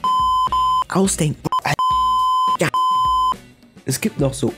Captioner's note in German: piep